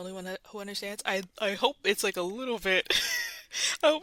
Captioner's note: laughs